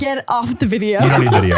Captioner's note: laughs